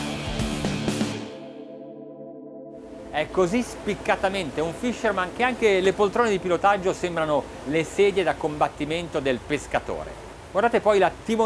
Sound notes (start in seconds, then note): 3.3 speaking in foreign language